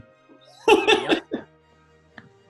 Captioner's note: giggling